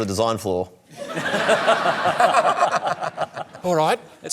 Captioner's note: laughter